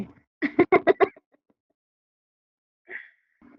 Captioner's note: laughs